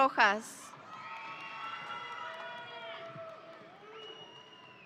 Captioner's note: audience cheering